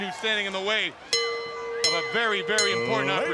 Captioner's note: bell ringing